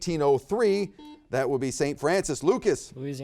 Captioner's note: buzzer beeps